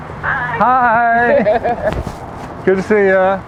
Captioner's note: laughs